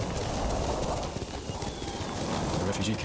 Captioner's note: thunder rumbling